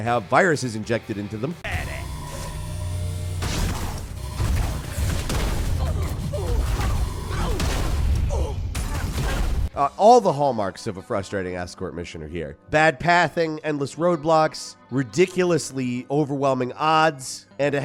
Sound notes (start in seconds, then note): 3.4 gunshots; 3.6 grunting